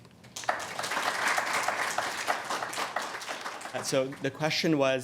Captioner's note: audience applauds